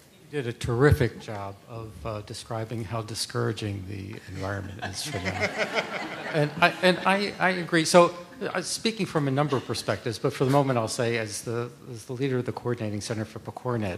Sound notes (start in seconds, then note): 7.9 laughter